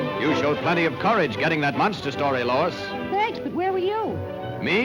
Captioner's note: none